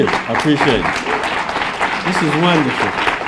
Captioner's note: applause